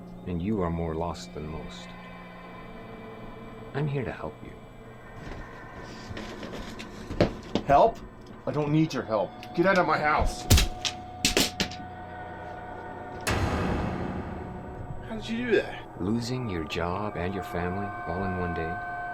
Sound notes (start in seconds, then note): 10.7 loud bang; 11.5 suspenseful music